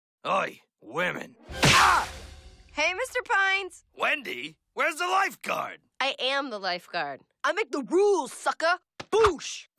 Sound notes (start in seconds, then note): 1.5 splat